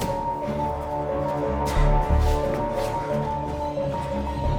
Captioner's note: light dramatic music; heavy breathing; suspenseful music